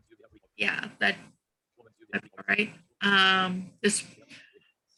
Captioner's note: muttering